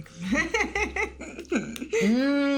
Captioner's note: laughing